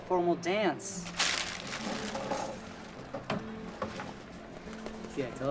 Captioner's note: paper rustling